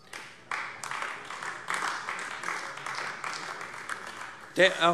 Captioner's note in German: Beifall AfD